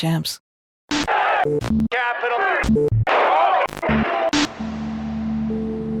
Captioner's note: static noise; ambient music